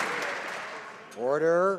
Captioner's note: some Applause